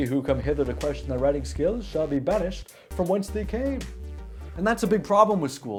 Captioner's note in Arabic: كلام بالإنكليزية القديمة